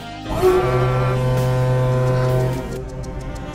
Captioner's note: ferry horn